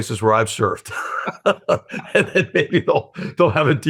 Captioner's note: laughs